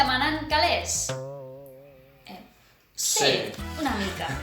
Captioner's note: somewhat unconfortable silence